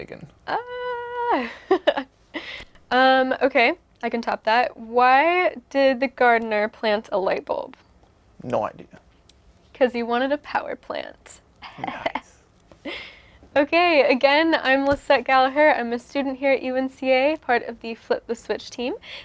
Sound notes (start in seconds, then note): 0.8 laughs; 11.6 laughs